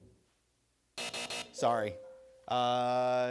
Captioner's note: bell rings